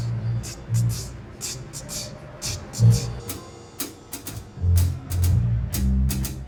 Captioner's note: vocalizing drum pattern